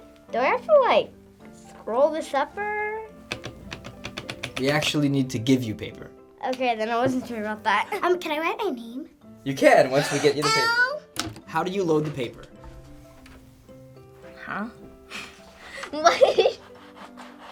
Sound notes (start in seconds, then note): 11.0 gasps; 15.7 laughs